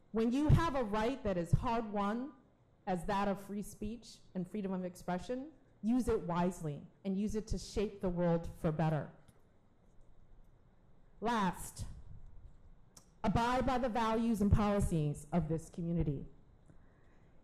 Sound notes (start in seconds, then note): none